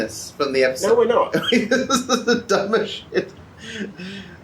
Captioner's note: laughs